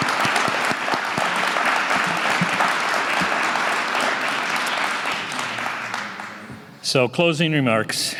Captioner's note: applause